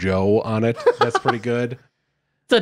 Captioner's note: laughing